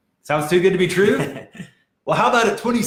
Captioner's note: laughing